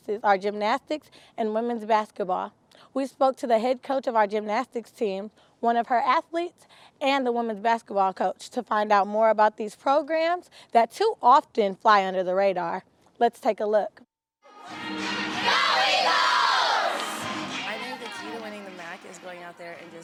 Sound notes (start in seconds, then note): 14.5 cheering